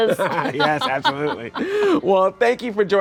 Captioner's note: laughing